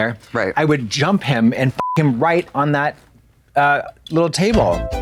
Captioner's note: beep; synth bop